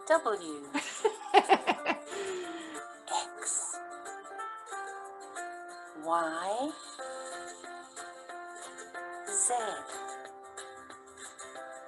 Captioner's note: laughter